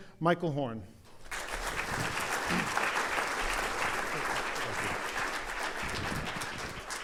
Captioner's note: audience applause